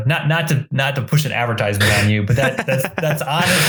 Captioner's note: laughs